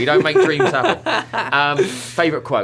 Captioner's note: laughter